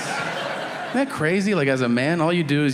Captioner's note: audience laughing